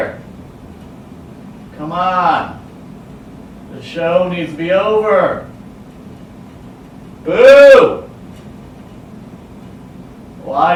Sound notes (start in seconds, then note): none